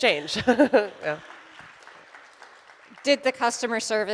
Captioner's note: audience applauds